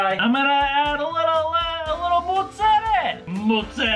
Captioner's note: Italian accent; Italian accent intensifies